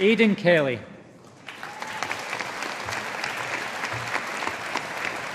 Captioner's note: audience applauding